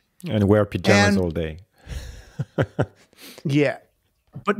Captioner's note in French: rires